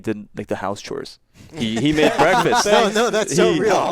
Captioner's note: attendees laughing